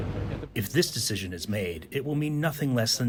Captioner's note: through translator